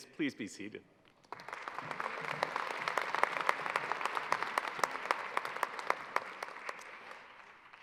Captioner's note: applause